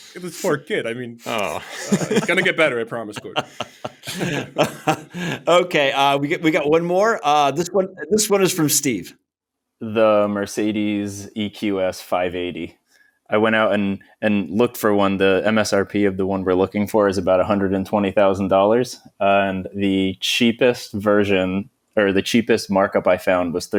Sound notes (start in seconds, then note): 3.6 laughter